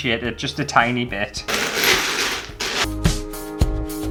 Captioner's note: mosaic Tiles Clashing